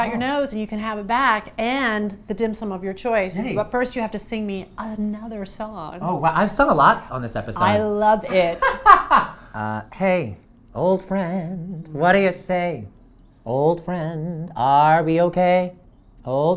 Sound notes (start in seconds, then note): 8.2 laughs